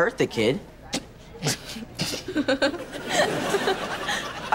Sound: laughing

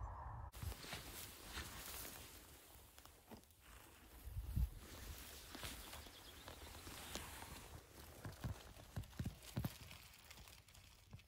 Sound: no audio, birds tweeting in distance

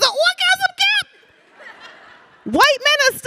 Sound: audience laughing

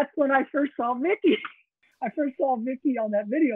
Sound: chuckles

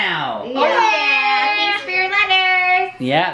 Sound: kids cheer

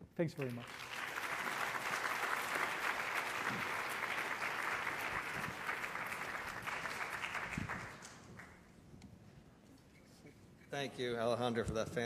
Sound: applause

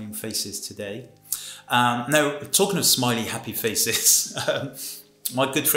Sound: he laughs

